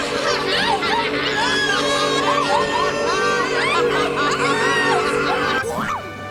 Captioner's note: mongolian throat music returns; screaming and cackling